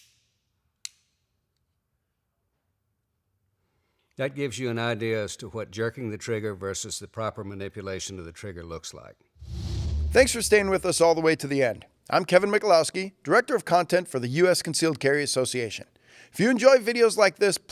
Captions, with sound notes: That gives you an idea as to what jerking the trigger versus the proper manipulation of the trigger looks like. (air whooshes) - Thanks for staying with us all the way to the end. I'm Kevin Michalowski, Director of Content for the US Concealed Carry Association. If you enjoy videos like this,